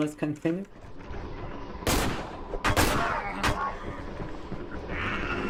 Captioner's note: gun firing